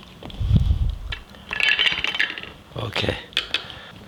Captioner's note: oysters clatter